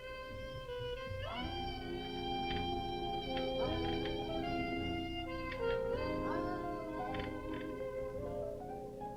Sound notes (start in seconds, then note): 2.7 metal clanking